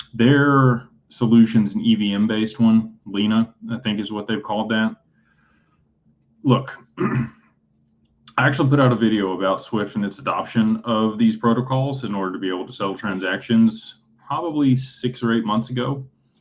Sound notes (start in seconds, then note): 6.9 clears throat